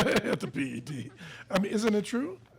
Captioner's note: laughing; laughs